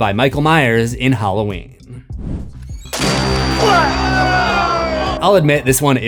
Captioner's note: screams